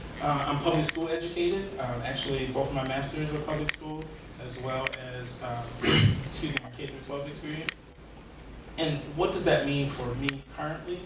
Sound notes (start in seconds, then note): 5.8 coughs